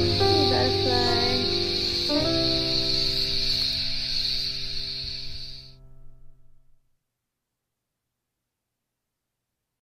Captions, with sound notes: Oh, hey, butterfly. [cicadas fade out to black]